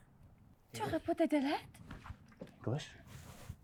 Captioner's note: speaking foreign language